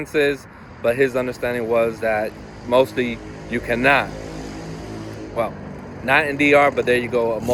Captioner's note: a motorcycle is heard in background